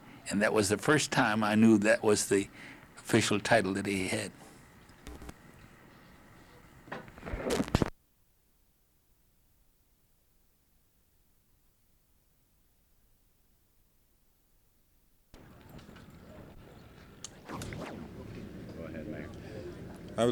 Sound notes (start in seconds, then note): 8.0 no audio